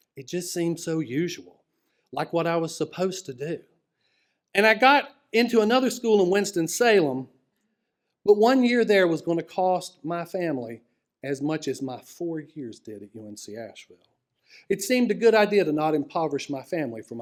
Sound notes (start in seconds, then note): none